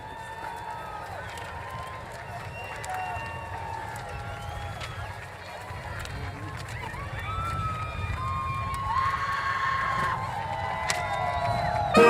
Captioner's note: applause